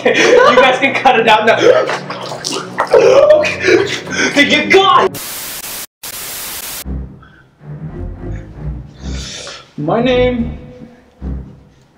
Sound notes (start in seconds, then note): 1.4 giggles; 1.5 more helpless gurgling; 5.0 television static